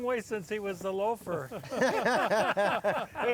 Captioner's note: all laugh